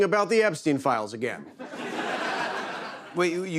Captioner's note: laughter